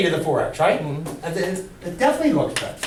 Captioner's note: voiceover